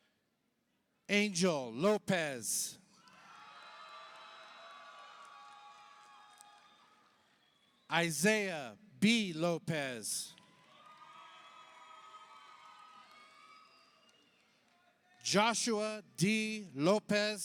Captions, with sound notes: Angel Lopez, (audience applauds) (audience cheers) Isaiah B. Lopez, Joshua D. Lopez-Navarro,